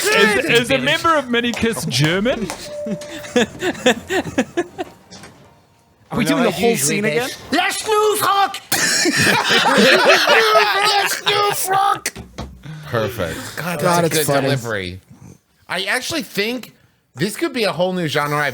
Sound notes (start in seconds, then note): 7.7 speaking in German; 8.6 laughs